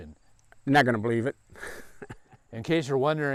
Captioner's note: laughs